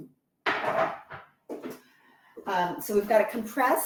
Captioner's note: board clatters